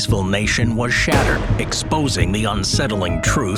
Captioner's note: gun fires